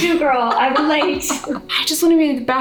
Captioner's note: laughing